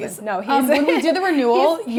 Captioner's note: chuckles